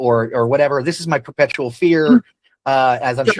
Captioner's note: laughs